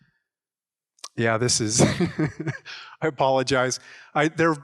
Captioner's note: laughs